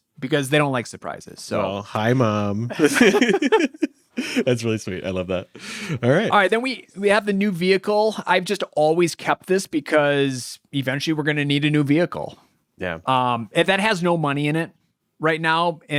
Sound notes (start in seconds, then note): 2.2 laughing